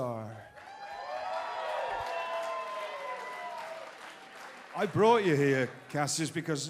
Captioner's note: crowd cheering